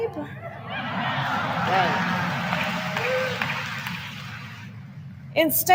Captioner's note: applause